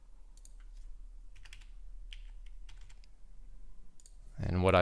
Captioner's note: keyboard clicking